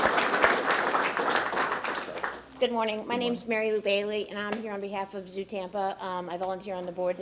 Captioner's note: applause